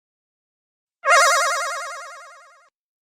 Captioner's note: mysterious sound effect